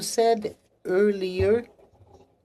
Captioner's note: speaking French